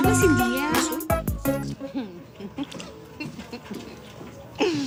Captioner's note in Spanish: Risas